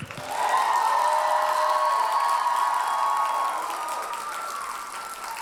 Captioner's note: audience cheers and applauds